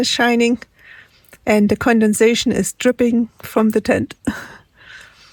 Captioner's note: laughs